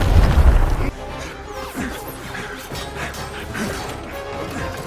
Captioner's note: explosion; grunting